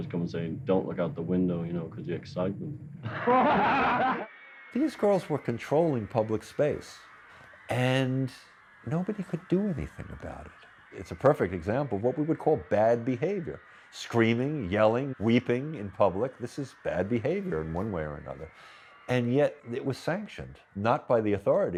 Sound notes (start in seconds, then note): 3.0 laughing